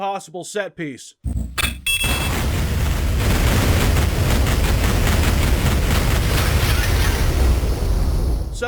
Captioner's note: explosions